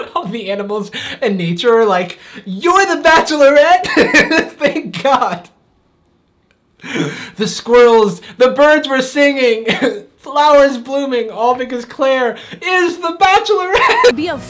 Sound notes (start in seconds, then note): 0.0 laughs loud; 3.8 laughs loud